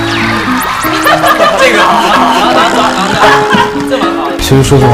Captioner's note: laughing when choreographing